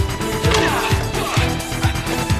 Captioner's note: grunting